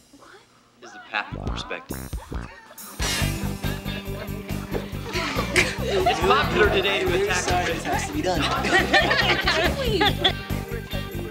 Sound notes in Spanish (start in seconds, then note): 3.6 todos ríen